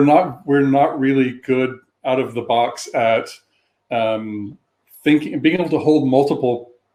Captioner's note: erm